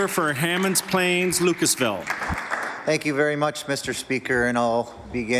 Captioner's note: some Applause